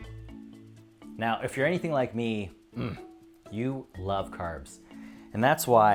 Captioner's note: moans